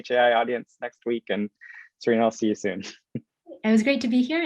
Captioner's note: chuckling